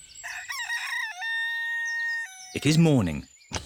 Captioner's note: rooster crows